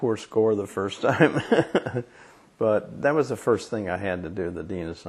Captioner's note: laughs